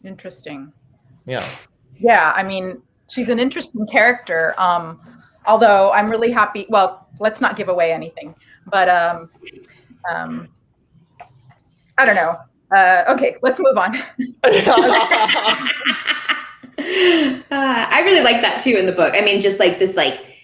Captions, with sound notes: - Interesting. - Yeah. - Yeah, I mean, she's an interesting character although I'm really happy, well, let's not give away anything but, I don't know, okay, let's move on. (laughing) - I really liked that too in the book. I mean, just like this,